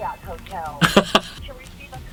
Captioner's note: laughter